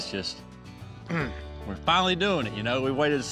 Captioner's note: grunts